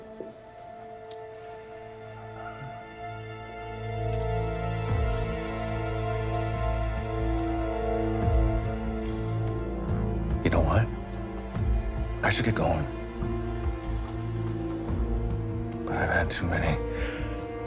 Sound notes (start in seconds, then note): 4.0 gun clicks; 5.5 tense music